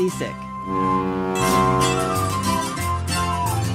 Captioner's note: ferry horn blares